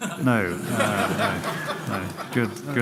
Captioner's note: laughter